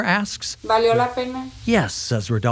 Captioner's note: speaking in foreign language